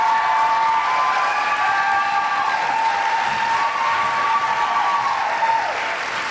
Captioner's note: cheers, applause